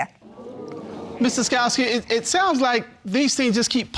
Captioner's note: audience exclaiming